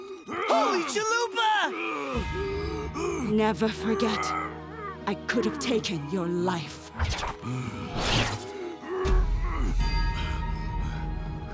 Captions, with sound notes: Holy chalupa! Never forget. I could have taken your life. [groaning]